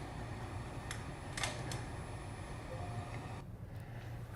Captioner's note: clicks